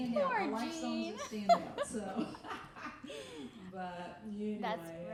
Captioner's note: laughing